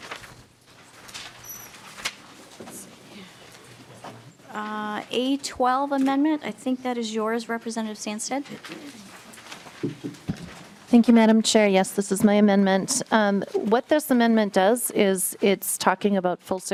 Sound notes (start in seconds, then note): 2.5 gavel